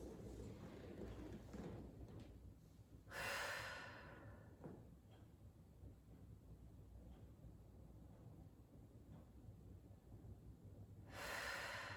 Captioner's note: breathing